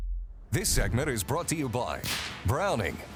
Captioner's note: voiceover; gunshot fires